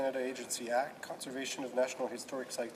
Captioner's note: speaking French